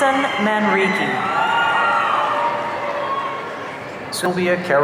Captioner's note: audience cheering